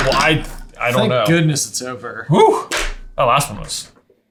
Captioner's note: sighing